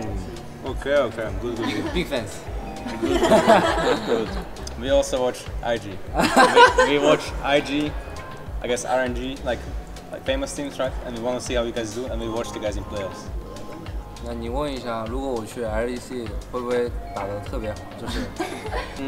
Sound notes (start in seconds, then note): 2.8 laughs; 5.7 laughs